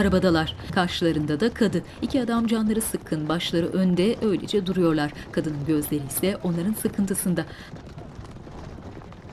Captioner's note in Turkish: At arabası sesi